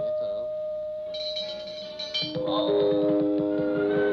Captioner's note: lamp chiming; lamp clattering